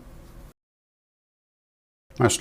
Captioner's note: silence